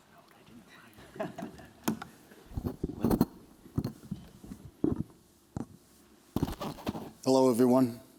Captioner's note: chuckles